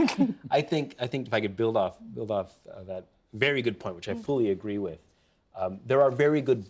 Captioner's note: laughter